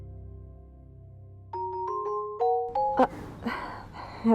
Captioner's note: phone rings